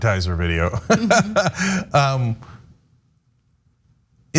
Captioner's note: laugh